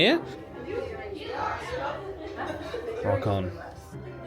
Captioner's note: crowd chattering